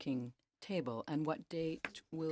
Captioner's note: speaking French